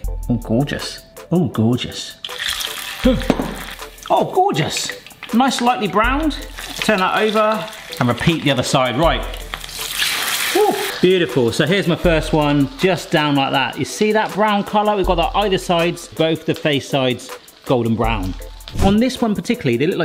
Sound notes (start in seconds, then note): 0.8 sultry music; 2.4 oil sizzles; 9.8 oil sizzles